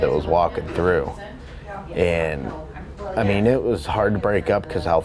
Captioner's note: none